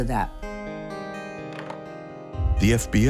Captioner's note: phone tapping